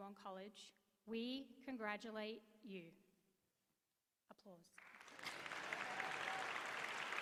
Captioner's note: applause